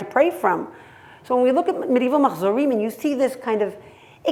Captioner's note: hebrew